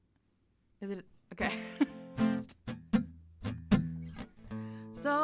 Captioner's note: laughter